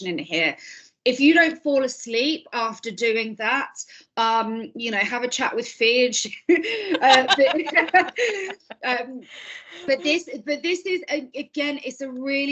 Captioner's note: laughing